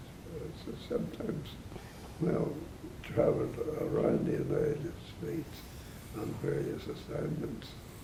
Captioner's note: none